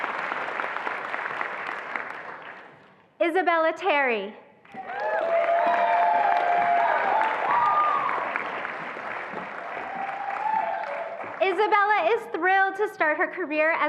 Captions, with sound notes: Isabella Terry. (attendees applauding and cheering) Isabella is thrilled to start her career